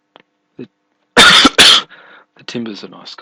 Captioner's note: coughing